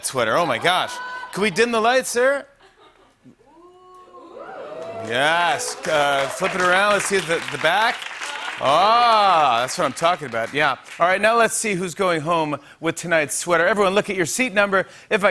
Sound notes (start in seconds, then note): 3.5 audience oohs